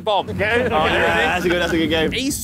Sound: laughing

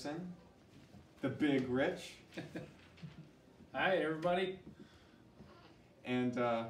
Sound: laughs

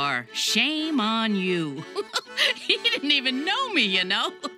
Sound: laughs

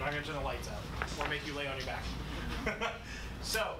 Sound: laughs loudly

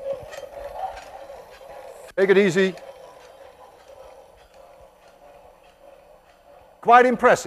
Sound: apparatus trundling

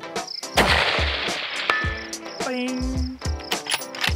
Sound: rifle firing

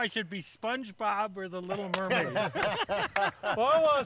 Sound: all laughing

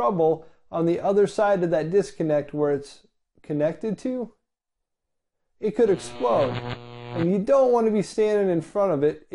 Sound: electrical buzzing

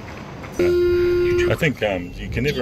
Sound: car horn

